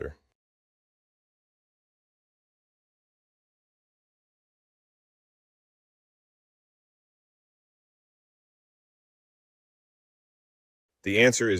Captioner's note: no audio